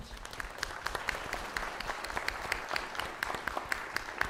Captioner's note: applause